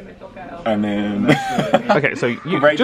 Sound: laughs

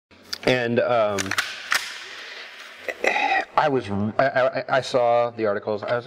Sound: gun charging clicks

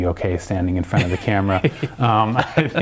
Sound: laughs

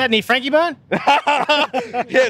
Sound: laughing

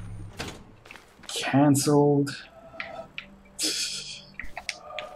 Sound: titters

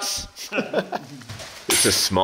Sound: laughing

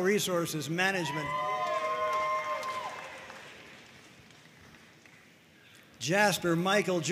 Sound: audience cheering and applauding

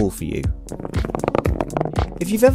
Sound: rolling coin noise

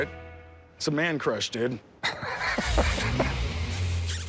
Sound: laughs

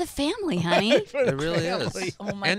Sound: laughing

